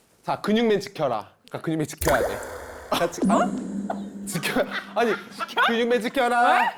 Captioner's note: confused sound effect